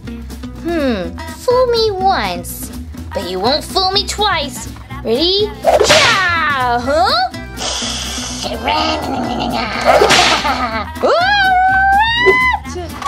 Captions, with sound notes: Fool me once, but you won't fool me twice! Ready, hi-yah! Huh? [ Rat Snarls] [ Gekko Screams] A rat!